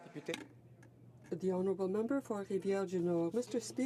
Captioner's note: speaking French